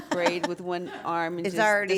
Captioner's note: laugh